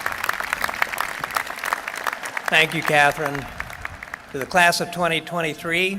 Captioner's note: applause